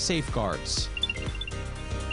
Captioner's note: nats& chirp